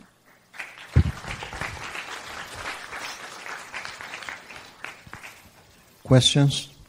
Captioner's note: applause